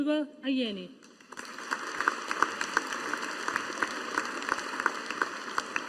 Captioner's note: audience applauding